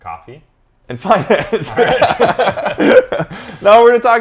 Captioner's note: both laughing